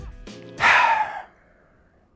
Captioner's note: sighs